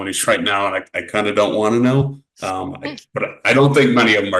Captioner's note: laughs